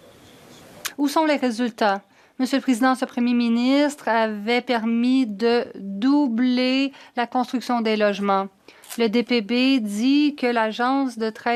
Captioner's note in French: voix de l'interprète